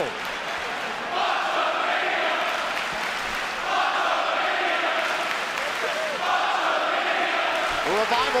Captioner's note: fans chanting